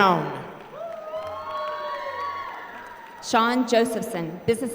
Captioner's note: applause